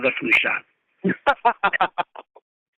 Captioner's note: laughter